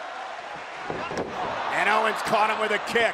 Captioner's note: fans chanting